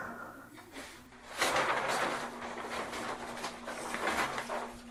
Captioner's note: sounds of paper ruffling